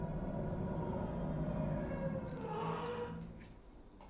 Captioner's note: babies crying, distorted